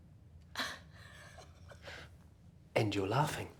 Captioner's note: woman laughing